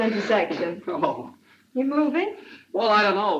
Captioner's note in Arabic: يضحك